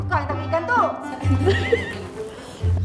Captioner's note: laugh